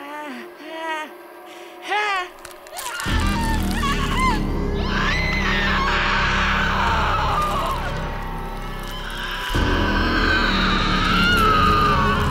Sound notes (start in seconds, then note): 0.1 Brigit yelping; 2.7 Brigit screaming; 3.0 blood squelching